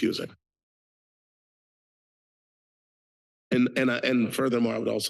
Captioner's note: pause